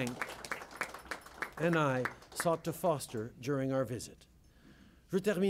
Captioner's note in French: Applaudissements